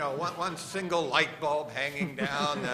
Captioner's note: laughter